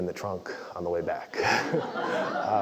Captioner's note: laugh